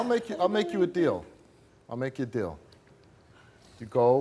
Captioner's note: none